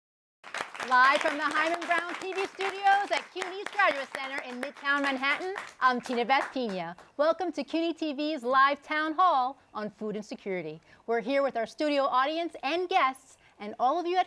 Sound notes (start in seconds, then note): 0.4 applause